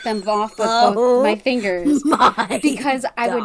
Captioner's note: laughing